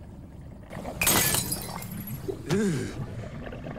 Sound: glass breaking

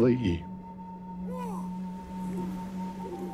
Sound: men chanting

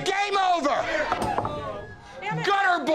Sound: shouting

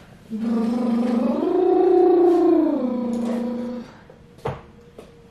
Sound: buzzing lips melodically

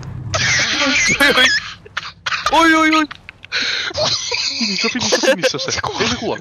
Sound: autistic screeching

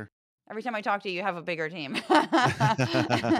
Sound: laugh

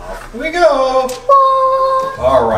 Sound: assistant ululating

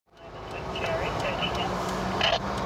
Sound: police scanner chatter

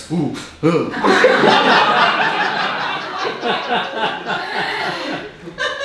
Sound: audience laughing

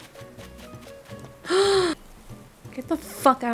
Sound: gasping, can't breathe, a mess really

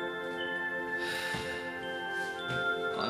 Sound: David sighs

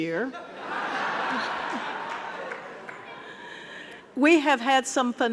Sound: audience laughing; chuckles

